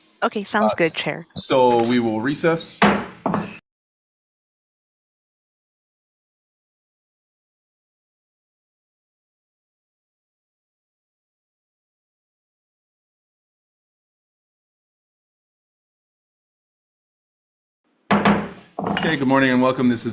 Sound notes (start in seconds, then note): 2.7 gavel bangs